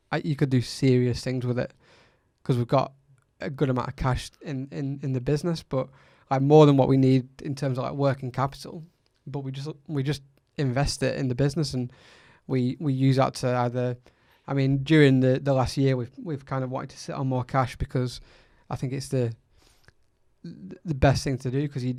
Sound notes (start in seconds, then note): none